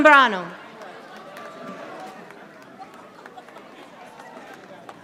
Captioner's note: audience applauding